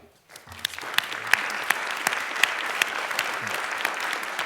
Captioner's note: applause